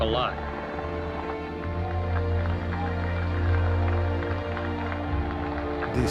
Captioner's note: cheers and applause